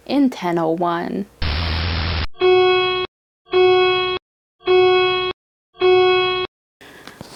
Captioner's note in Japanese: 警報が鳴り響きました